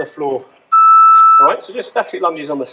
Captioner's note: beep